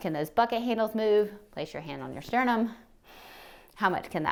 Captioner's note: inhales